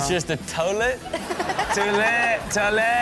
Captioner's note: Chanel and audience laughing